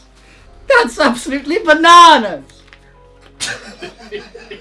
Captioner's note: laughs